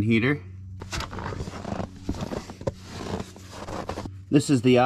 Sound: snow crunching

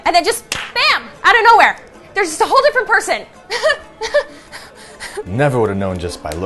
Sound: Angie laughs hysterically

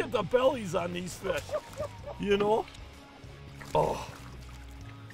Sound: laughing

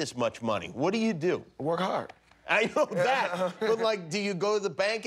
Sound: laughter

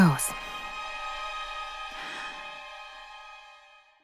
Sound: inhaling deeply

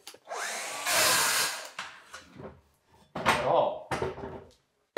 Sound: saw buzzing

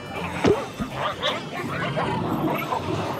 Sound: chain clanking; drain stopper popping; fish exclaiming

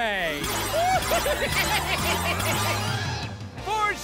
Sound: laughing

